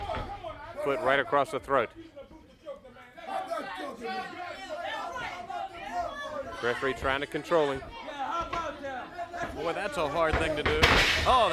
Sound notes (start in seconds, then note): 3.3 crowd chatter